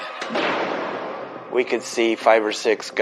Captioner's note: suspenseful music; gunfire blasting